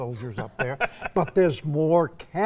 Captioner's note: laughing